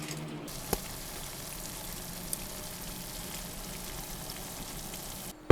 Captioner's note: cooking sound